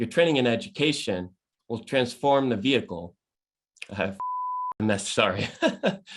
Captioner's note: beep